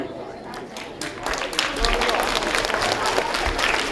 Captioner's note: applause